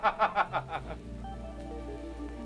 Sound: laughing

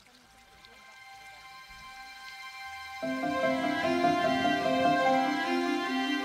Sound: water trickling; gentle hopeful music

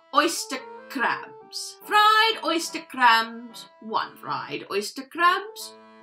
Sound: reading titles in outrageous and terrible accent

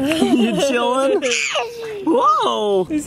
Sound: laughing; baby laughing

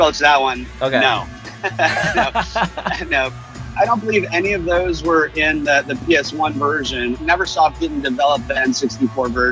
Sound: laughs

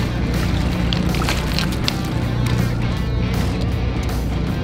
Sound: water splashes

